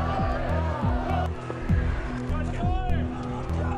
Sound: yelling

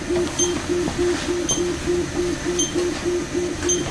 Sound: device beeping

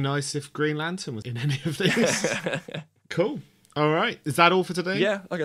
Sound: both laugh

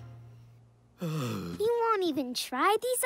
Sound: Roy sighs

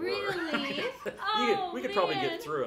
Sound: chuckling

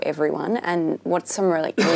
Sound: coughing

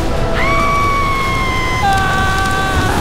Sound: screaming; intense music

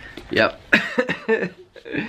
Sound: chuckling

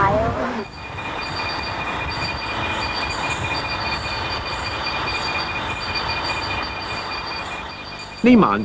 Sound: night sounds ... not quite crickets

